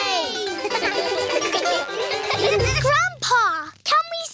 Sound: all giggle

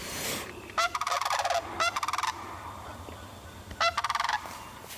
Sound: cranes chirping lightly

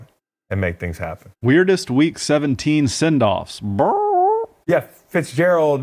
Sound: squawks

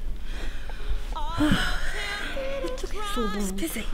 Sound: Leanna sighs

